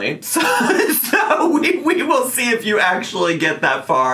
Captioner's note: laughs